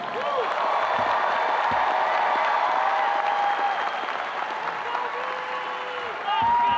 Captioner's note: audience applauding and cheering